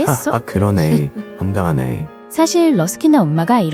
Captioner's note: laughs